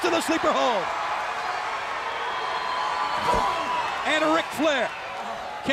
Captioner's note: crowd cheering